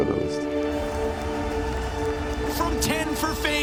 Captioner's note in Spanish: multitud vitoreando